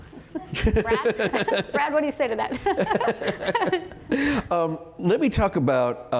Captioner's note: laughter